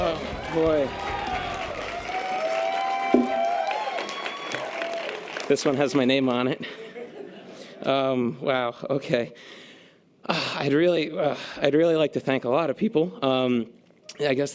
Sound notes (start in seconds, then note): 2.1 audience applause and cheers